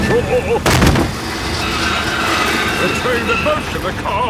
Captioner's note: thud